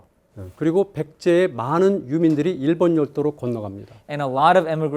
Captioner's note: speaking in Korean